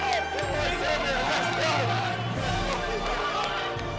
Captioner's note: shouting